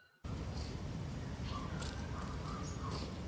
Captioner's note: birds chirping